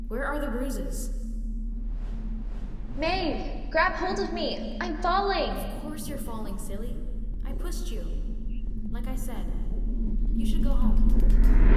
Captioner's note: increasingly distant and distorted